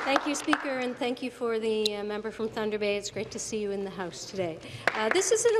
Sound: applause

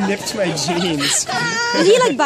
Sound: laughing

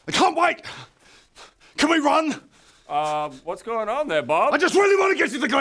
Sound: none

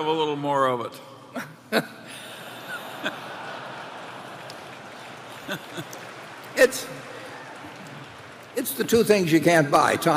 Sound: laughter and applause

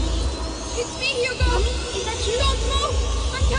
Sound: echoing

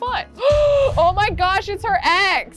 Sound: dramatic music; gasping

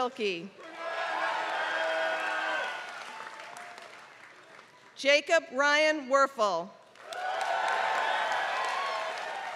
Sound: applause

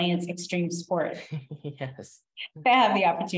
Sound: laughs

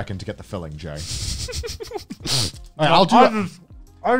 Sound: laughing

